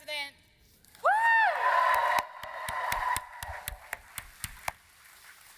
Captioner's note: applause